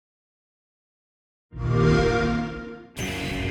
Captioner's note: xbox sound